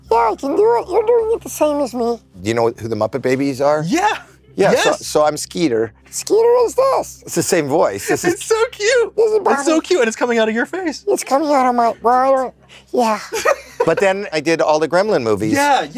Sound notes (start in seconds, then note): 6.2 cartoon voice; 9.6 cartoon voice; 13.2 laughs